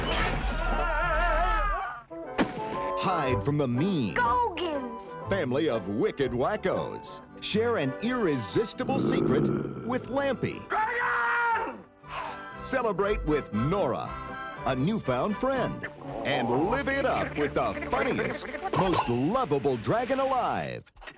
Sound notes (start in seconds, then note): 0.1 screaming